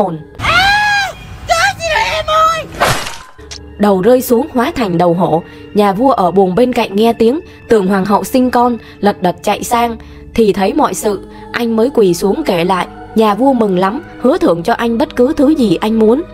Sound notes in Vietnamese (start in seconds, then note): 2.7 tiếng gươm chém